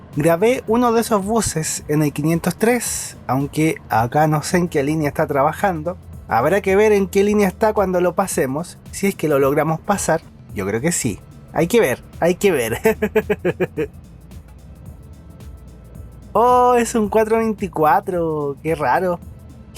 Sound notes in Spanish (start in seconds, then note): 12.8 risas